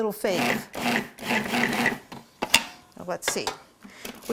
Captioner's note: blender pulsating